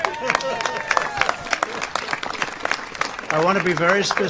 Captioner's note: applause